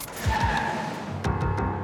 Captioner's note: piano music; tires sqeeling; piano music